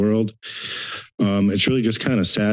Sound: inhales

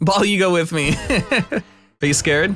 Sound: laughs

